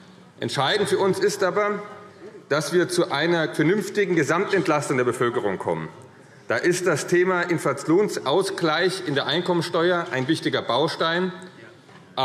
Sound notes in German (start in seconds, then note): none